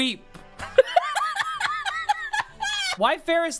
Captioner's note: laughing